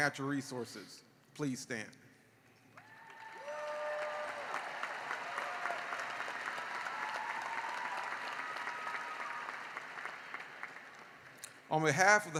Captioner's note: cheering and applause